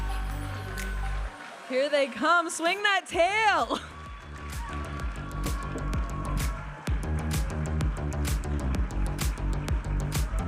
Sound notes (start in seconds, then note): 4.4 audience applauding and cheering; 6.6 vibrant music